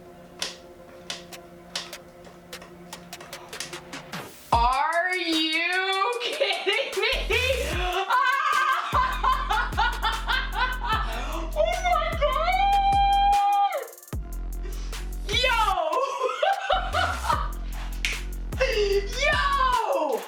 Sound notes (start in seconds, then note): 0.0 tense music; 9.4 laughs; 15.7 laughs